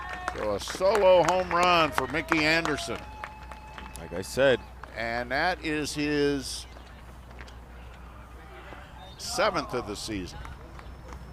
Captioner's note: applause